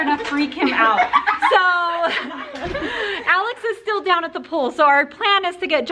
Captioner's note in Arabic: يضحك